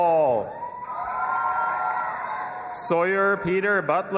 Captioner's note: audience applauding and cheering